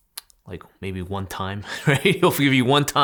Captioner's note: laughing